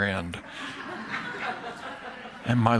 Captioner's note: laughter